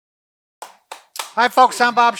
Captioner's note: clapping